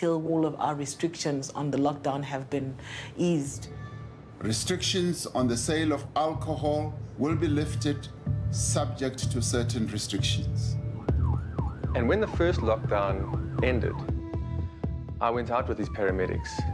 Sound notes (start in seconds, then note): 10.8 siren wailing